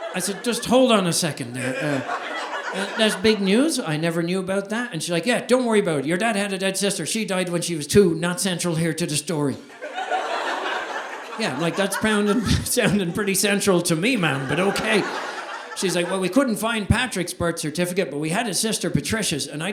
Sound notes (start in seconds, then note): 10.3 audience laughing